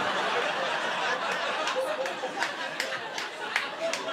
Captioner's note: laughter